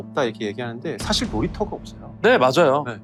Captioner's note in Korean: 무거운 효과음